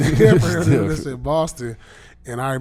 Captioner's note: laughing